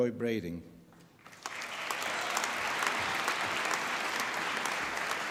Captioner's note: applause